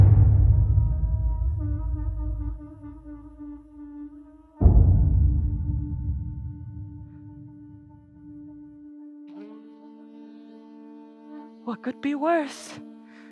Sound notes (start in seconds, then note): 0.0 tribal drum strike; 0.0 conch shell horn in distance; 0.3 tribal drum strike; 7.4 conch shell horn